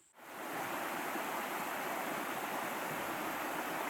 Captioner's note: water babbling